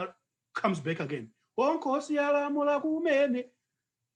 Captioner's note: non-english speech